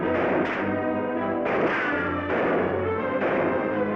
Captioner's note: gunshots bang